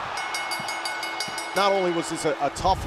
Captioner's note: bell ringing